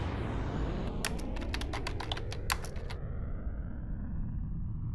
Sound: keyboard clicking

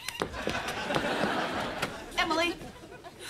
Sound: audience laughing

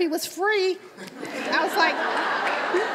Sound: audience laughs

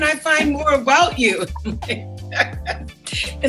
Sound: laughs

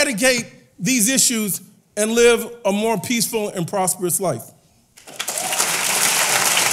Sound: applause

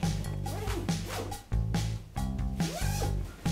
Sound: zipper zips

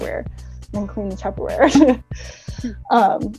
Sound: laughs

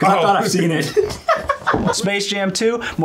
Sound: both laughing

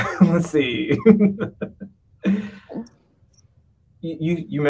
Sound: laughs

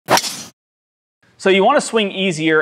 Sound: golf club hits golf ball

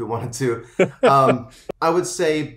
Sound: laughs

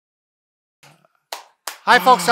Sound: applauding

